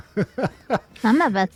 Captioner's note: laughs